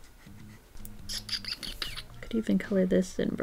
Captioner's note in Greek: Ήχοι με το στόμα